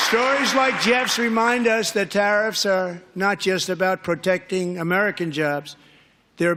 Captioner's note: applause